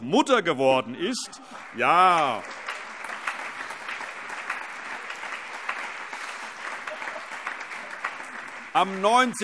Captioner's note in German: Allgemeiner Beifall